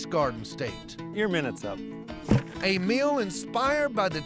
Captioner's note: thud